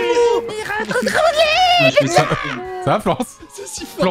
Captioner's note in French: tout le monde hurle; charabia avec une voix de crécelle